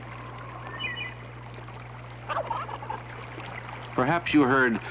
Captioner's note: turkey sounds